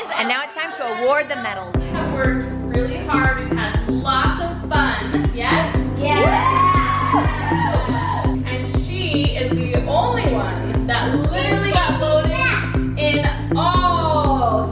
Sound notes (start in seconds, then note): 6.0 kids cheering